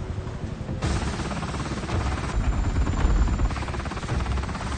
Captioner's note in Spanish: Zumbido del helicóptero